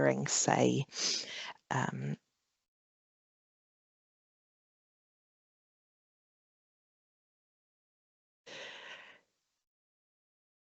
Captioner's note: pause